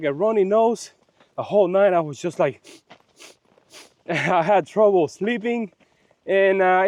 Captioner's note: sniffing, sniffing, sniffing